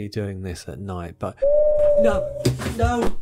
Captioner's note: owl hoots